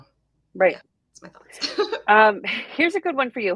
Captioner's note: laughs